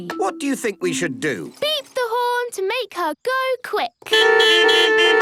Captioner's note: beeping